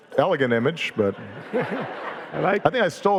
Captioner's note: audience laughing